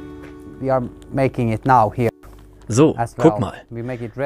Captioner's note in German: englisch